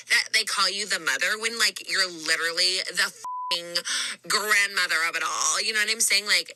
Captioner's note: beep